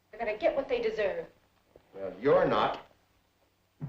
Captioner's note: none